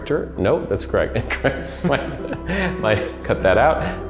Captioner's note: laughs